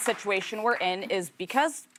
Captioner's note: cheers